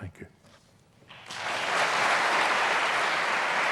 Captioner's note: applause